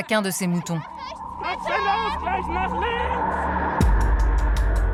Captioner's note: German spoken audio